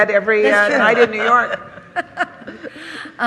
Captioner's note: laughter